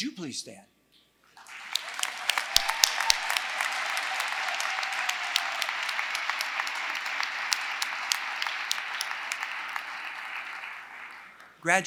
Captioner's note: applause